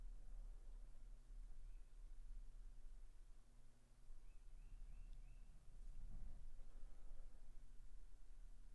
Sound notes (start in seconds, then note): 4.2 bird chirping